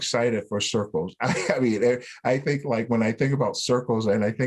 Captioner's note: laughter